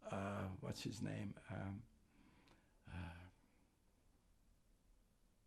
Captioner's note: pauses 8 seconds